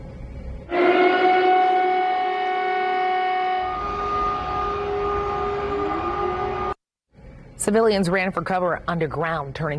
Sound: sirens

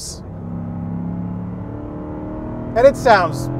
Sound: car revving

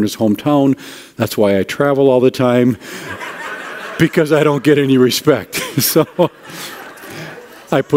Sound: audience laughter

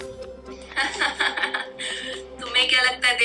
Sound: laughing

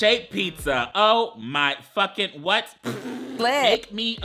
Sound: laughs

